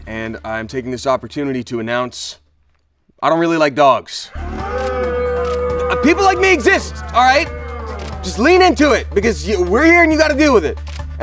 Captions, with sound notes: and I'm taking this opportunity to announce I don't really like dogs. (crowd booing) People like me exist, all right? Just lean into it because we're here and you got to deal with it.